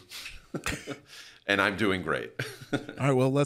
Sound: laughs quickly

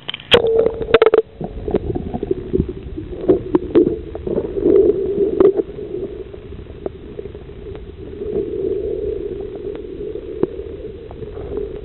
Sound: loud underwater noise

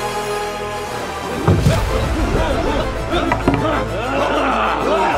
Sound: thieves grunting

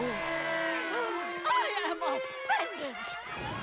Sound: gasps

